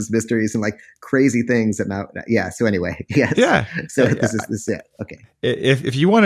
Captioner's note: laughs